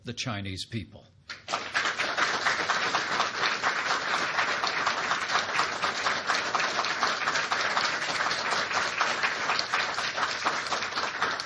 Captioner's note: applause